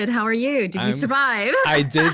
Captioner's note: laughs